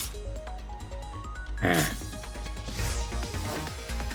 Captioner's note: sigh